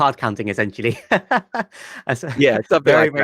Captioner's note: laughs